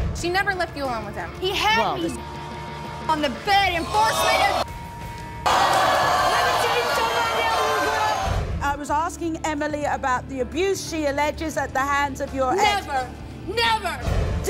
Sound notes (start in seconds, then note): 5.3 audience gasps